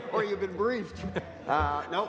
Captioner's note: laughing